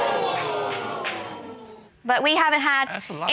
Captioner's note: audience exclaiming